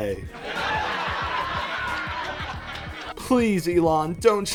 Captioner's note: laughter